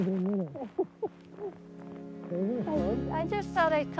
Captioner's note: laughing; gentle music